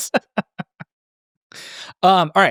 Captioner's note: laughing